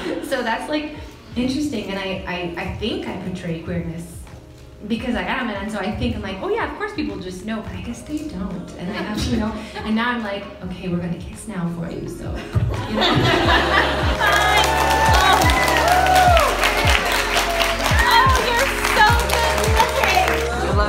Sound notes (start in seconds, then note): 0.0 audience laughs; 12.7 audience laughs; 14.1 clapping